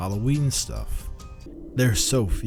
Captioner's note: wind howling